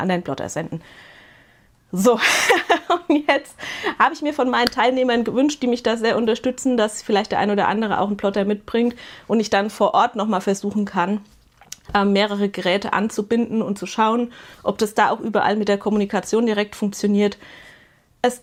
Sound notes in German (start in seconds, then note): 2.2 gelächter